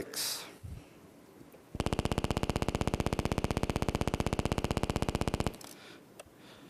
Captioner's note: vibration sounds